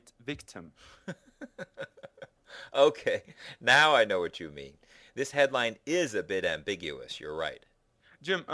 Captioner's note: laughter